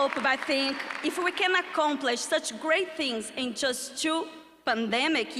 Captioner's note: applause